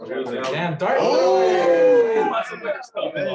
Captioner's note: shouting